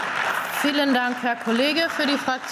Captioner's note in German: Beifall